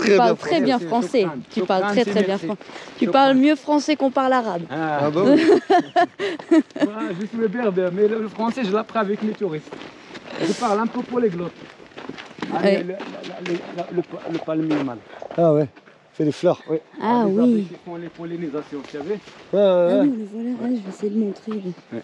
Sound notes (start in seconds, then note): 5.1 laughs